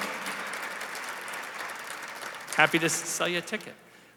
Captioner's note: applause